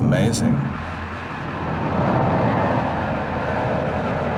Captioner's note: plane flying overhead